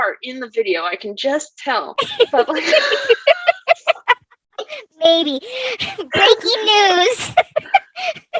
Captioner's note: laughs